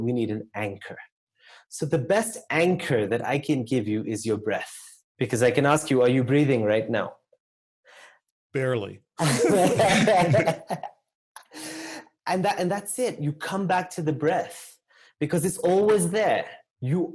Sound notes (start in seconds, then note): 9.2 laugh